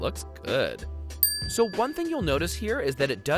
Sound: dings

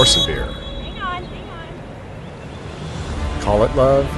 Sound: refs whistle

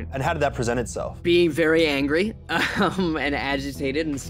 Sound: chuckles

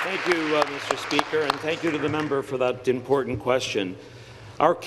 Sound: applause

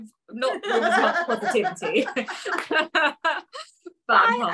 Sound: laughs

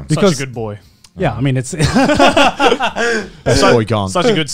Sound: all laughing

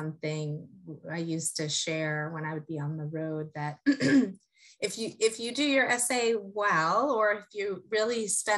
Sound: cough

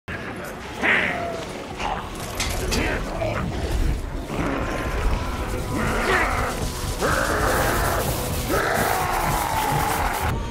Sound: grunting of the troops and Throt's ferocious growling

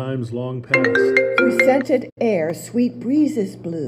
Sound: voices

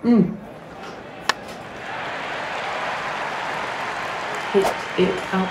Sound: baseball bat sound followed by cheering

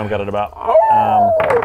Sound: awoooooo!

